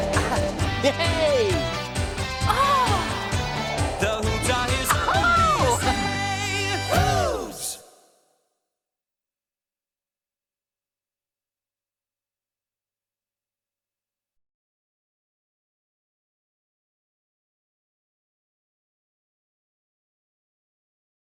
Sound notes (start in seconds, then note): 0.0 laughing; 6.1 exclaims